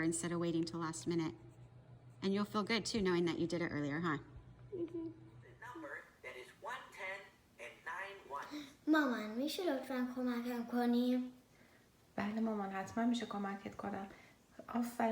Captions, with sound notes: instead of waiting until last minute. And you'll feel good, too, knowing that you did it earlier, huh? - Mm-hmm. (computer game talking) (speaking in foreign language)